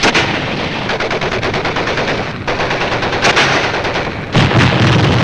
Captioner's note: guns firing